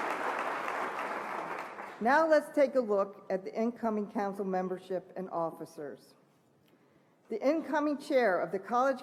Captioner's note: applause